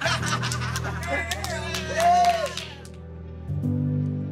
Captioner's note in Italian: applausi